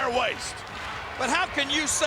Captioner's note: audience clapping